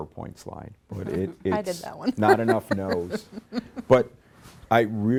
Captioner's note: laughs